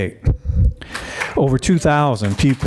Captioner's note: audience applauding